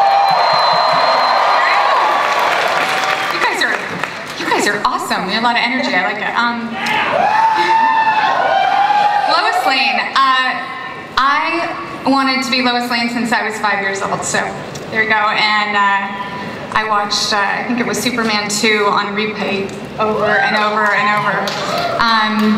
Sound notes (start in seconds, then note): 0.0 audience cheering and applause; 6.8 audience cheering